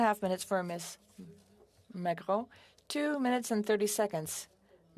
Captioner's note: speaking French